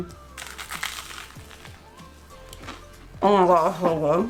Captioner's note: crunching